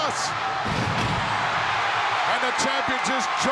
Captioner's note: audience cheering